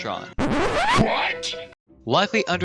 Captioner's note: record scratch